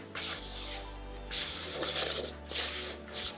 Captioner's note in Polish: parsknięcie